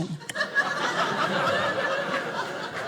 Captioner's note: audience laughing